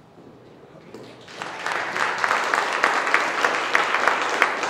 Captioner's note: applauding